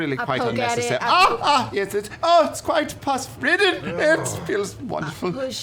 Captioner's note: yelps